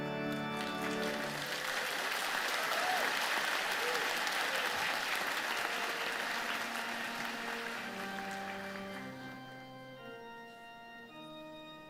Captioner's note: applause